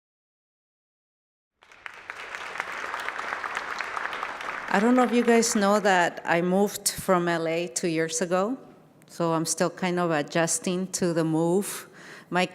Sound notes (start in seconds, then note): 1.6 audience applauding